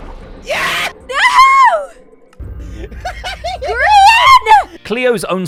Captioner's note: mischievous laughter